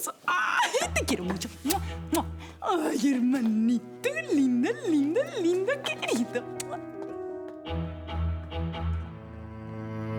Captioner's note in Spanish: Besos exagerados